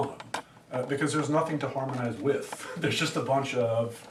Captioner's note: laughs